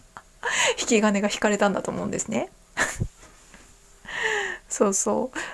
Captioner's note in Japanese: 息をのむ音